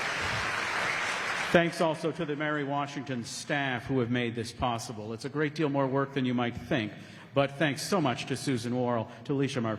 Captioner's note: applause